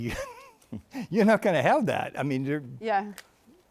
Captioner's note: chuckles